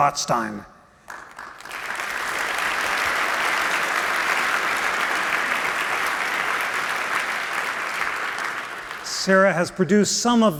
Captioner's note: applause